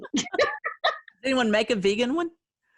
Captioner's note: laughing